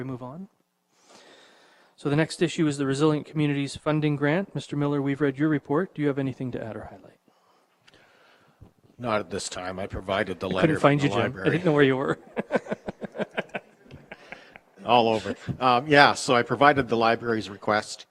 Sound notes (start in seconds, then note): 12.0 mayor chuckles